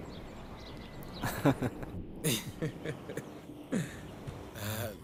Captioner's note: quejidos